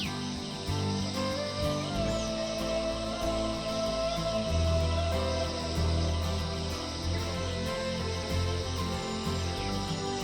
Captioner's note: laughs